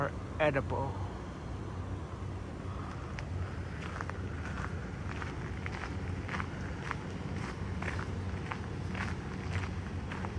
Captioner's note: walking on gravel